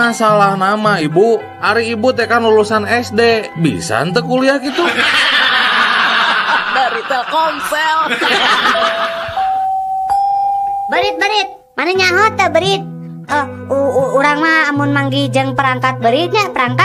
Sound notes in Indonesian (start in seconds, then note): 9.3 tertawa